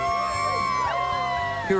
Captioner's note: crowd cheering